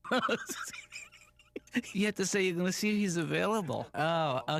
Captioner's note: chuckles